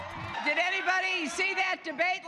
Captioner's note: cheers